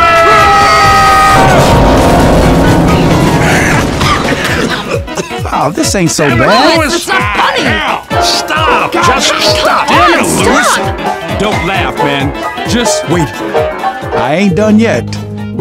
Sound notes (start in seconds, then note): 0.0 Louis screaming and falling from the sky on his piano; 3.3 Francis coughing; 3.3 Louis coughing; 3.6 Bill coughing; 14.8 performs a beautiful piano solo